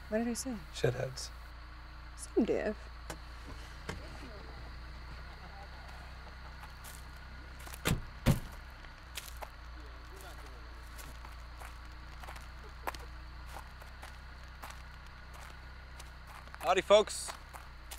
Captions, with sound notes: - What did I say? - Shit heads. - Same idea. (bugs chirping) (car doors thudding) - Howdy folks.